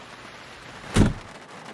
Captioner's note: rain; close car door; rain